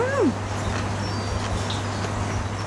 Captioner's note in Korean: 아삭아삭